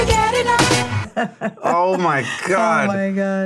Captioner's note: laughs